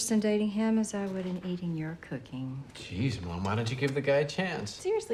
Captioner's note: none